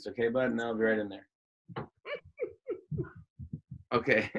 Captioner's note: laughs